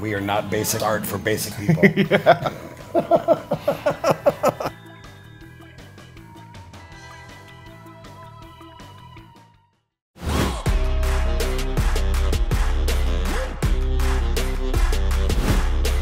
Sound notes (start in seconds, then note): 1.4 laughing; 3.4 laughter